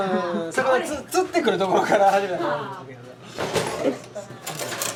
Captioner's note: laughs